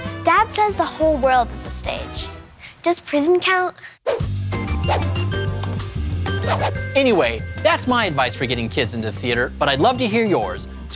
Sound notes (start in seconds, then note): 4.0 screen swooshes; 4.3 upbeat music